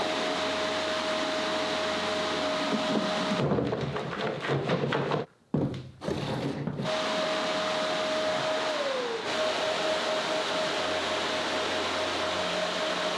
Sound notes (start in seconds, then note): 2.8 items rattling; 8.2 machine whirring